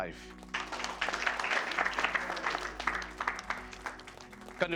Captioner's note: applause